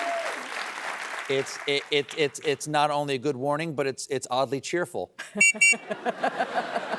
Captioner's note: blowing whistle